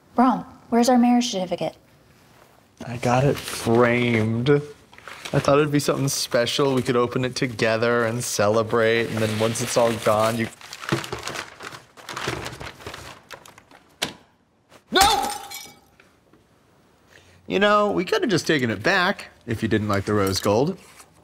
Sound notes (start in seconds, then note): 15.0 smash